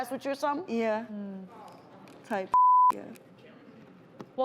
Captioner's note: beep